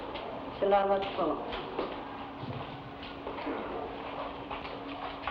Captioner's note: woman speaking in Tagalog